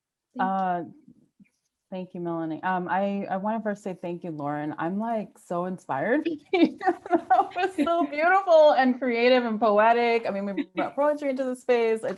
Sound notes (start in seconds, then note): 5.9 laughs